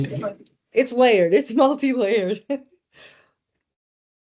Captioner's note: chuckling